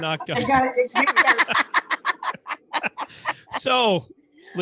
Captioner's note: laughs